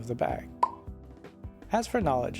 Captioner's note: pop